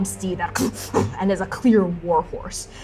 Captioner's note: vicious equine grunting